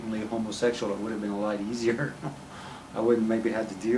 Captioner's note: chuckling